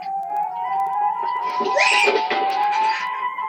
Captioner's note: Ruth Squeals